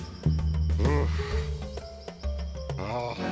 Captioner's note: groans